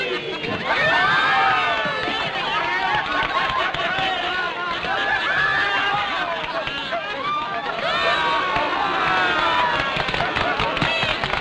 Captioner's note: raucous laughter